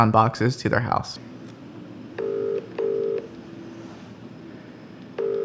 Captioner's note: phone ringing